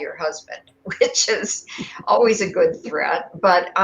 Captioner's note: laughter